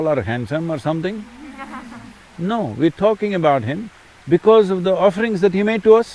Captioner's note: few laugh